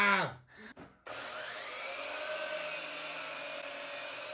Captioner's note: saw buzzing